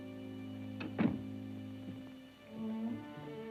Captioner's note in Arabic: نقرات الباب; موسيقى متوترة